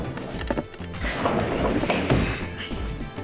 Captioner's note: Cupboard moving